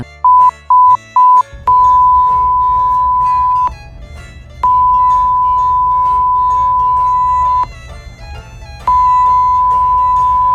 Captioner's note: beeping